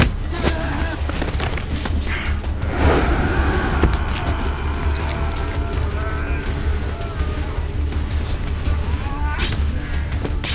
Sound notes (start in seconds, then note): 2.0 men groaning; 2.5 whooshing